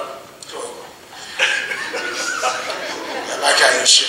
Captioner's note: laughing